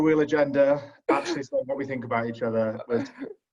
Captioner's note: laugh